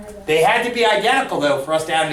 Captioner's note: voiceover